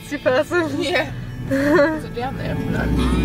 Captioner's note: laughing